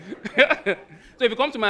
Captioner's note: laughing